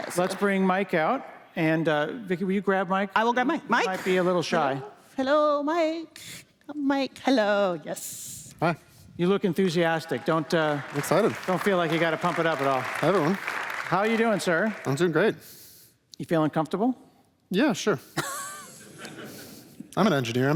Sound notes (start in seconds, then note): 10.1 applause